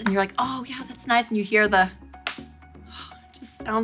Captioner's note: case snapping